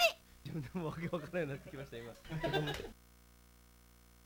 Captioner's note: laughter